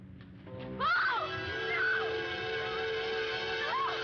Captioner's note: screaming